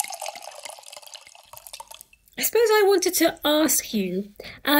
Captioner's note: drink pouring sound effect